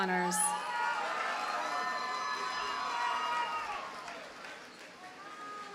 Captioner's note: audience cheers and applauds